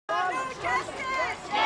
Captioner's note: chants